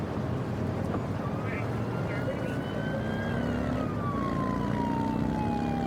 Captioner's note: siren blaring